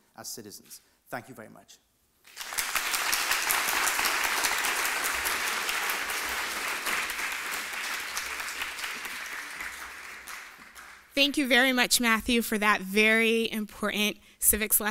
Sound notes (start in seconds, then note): 2.2 applause